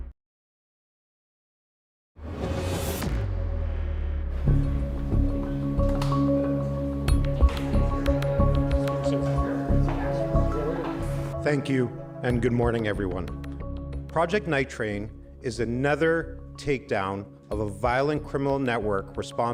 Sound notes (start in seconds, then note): 2.3 theme music plays; 5.4 tense music playing; 8.9 indistinct chatter